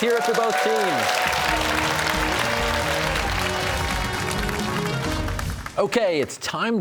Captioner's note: cheers and applause